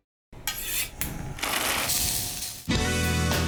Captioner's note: cooking Noises